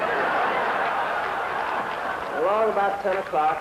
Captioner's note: laughter